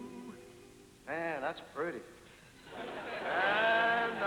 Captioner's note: laughter